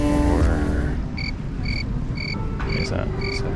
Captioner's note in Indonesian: Suara jangkrik